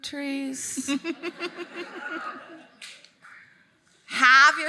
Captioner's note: all laughing